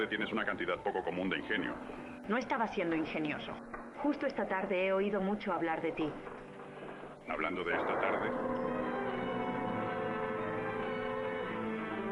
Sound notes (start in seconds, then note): 7.5 gun firing; 8.9 suspenseful music